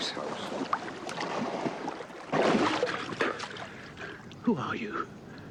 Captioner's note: water splashing